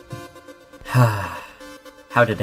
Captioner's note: sigh